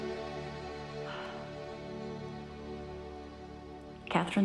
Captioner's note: exhaling